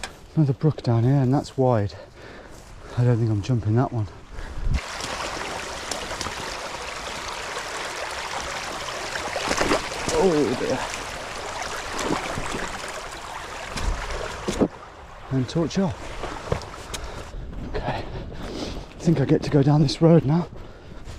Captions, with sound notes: Another brook down here and that's wide. I don't think I'm jumping that one. (water splashing) Oh dear. And torch off. Okay, I think I get to go down this road now.